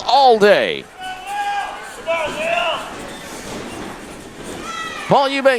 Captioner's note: crown jeering, cheering